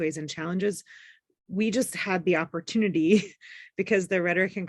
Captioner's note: chuckle